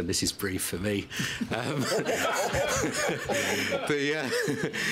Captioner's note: laughter